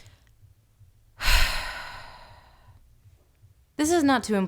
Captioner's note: deep, beleaguered sigh